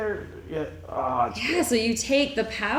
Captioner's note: groans